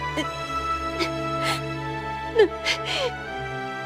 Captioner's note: sobs